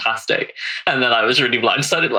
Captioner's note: laughing